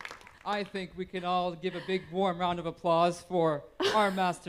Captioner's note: applause